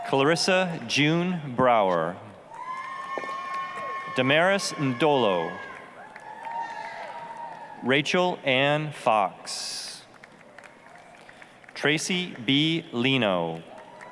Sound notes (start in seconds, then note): 2.5 applause, cheering; 10.0 applause; 13.2 applause, cheering